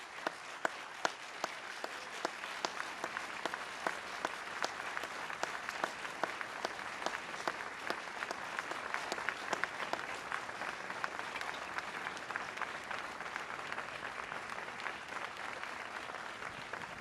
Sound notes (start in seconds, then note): 4.8 applause